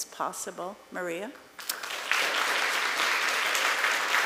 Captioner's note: applause